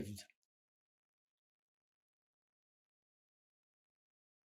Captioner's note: pauses 6 seconds